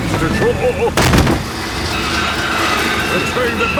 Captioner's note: thud